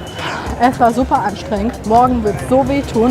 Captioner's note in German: seufz